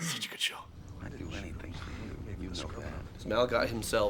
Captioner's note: quiet overlapping voices